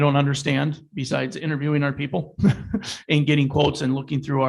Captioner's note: chuckles